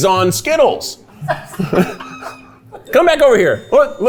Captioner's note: everyone laughs